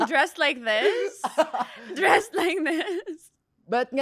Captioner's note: laughs